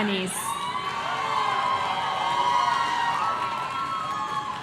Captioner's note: audience cheering